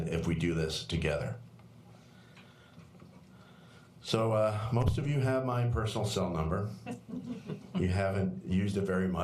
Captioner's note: laughter